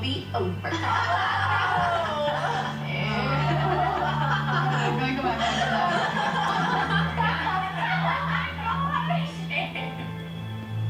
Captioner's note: laughing